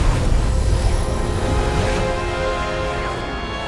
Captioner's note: gunshots